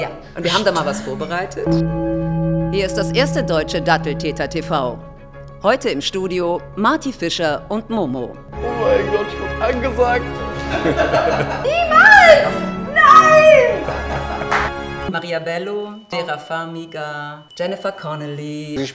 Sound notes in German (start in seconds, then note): 1.6 Gong